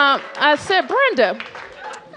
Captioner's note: cheers and applause